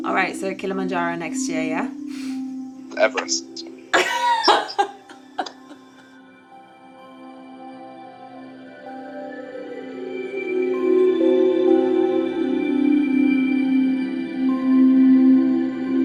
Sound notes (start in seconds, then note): 3.9 laughing; 7.1 light airy music